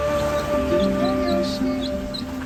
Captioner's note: chick chirps